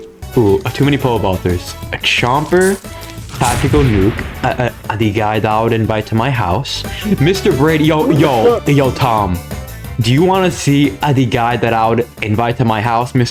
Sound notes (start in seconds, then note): 8.6 something in Spanish